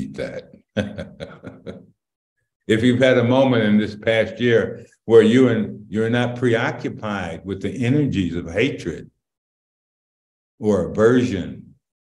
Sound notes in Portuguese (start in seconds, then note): 0.6 Risos